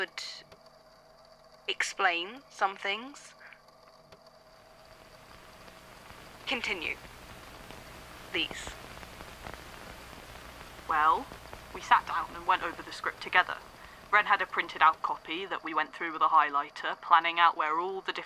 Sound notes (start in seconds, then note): 5.5 tape crackles